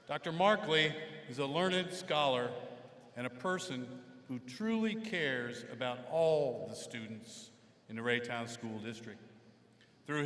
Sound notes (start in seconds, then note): none